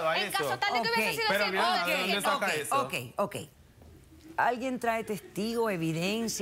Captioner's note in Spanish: Hablan al unísono